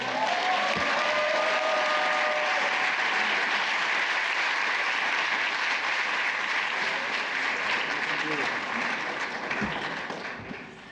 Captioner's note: applause